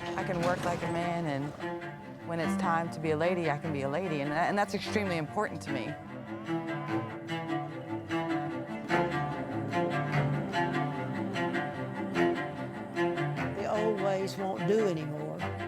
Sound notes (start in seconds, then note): 6.7 cattle lowing; 9.0 orchestral music continues